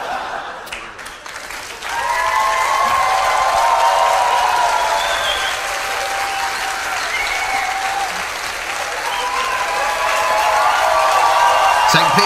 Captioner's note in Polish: Aplauz